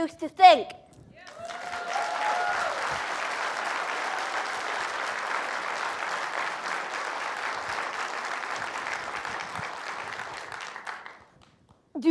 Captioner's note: applause